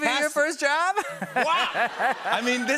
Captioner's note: laughter